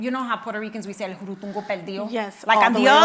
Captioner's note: speaks in Spanish